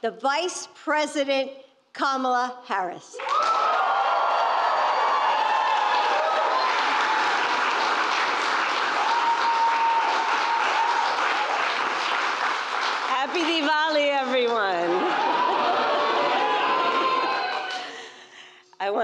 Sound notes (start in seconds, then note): 4.7 applause; 15.3 applause